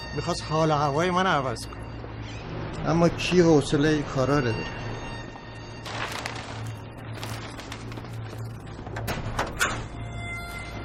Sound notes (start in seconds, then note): 5.8 nylon rustling; 9.0 door opening